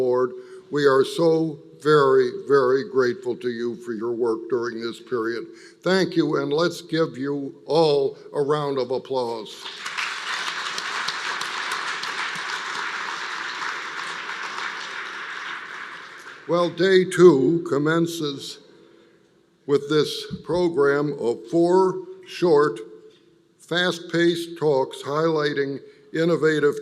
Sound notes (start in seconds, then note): 15.3 applause